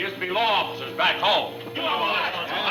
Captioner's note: group clamoring